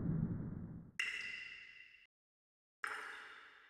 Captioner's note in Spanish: agua goteando